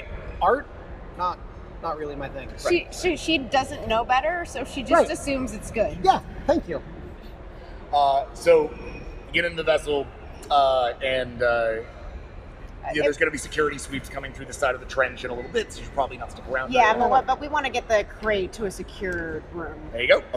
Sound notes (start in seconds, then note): none